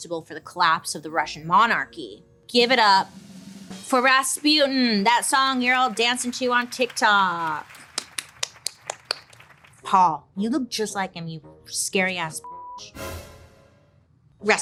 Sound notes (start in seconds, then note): 7.8 audience applauding; 7.8 clapping; 12.4 beeps; 12.8 sharp dramatic orchestral music